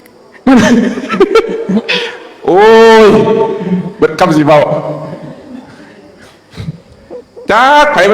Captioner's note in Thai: เสียงหัวเราะ